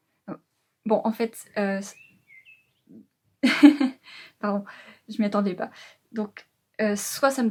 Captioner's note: laughs